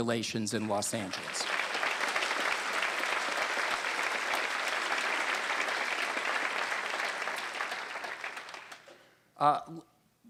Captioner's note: applause